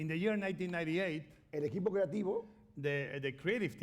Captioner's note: speaking spanish